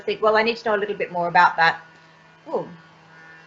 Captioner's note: noise of lawn mower in background